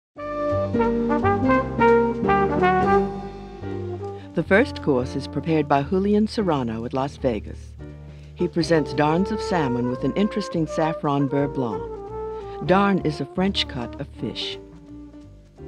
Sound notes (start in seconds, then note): 0.5 jazzy music; 4.2 voiceover